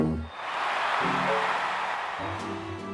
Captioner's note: crowd cheers